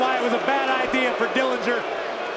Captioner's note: crowd cheering